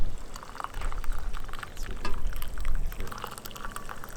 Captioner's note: coffee pouring